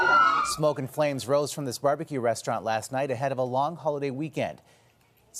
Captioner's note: sirens